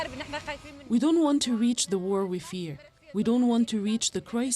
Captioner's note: speaking alternate language